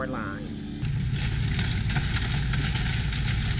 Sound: crunching sound

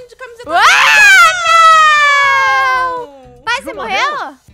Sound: screaming

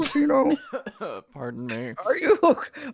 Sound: coughing

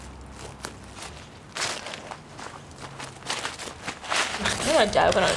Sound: leaves rustle

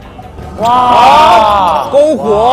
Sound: exclaiming again and again

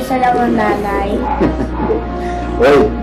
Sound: laughs

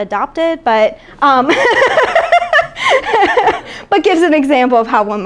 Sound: laughing

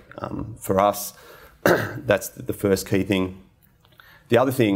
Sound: clears throat

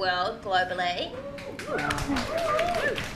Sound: audience applauds

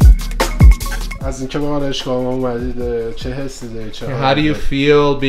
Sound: speaking Farsi

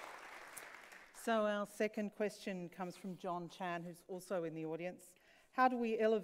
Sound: applauds

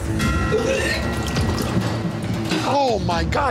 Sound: retching

